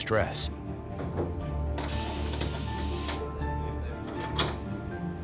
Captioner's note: device pumps